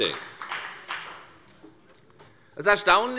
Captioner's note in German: Beifall bei der FDP